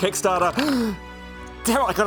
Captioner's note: gasp